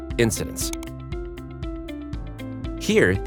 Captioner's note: cursor clicks